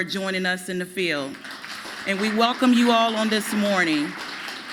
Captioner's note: applause